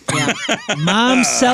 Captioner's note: laughing